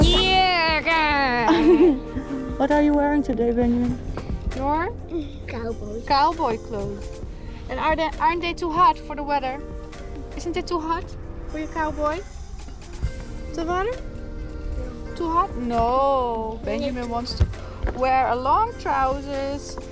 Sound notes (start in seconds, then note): 13.7 speaks Dutch